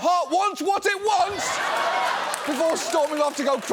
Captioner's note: audience laughs